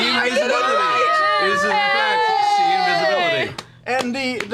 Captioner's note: cheering